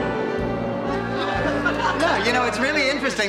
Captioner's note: laughing